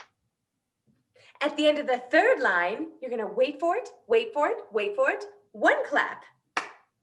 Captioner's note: clap